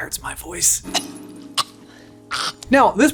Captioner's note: gagging